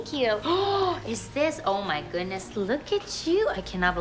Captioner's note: gasps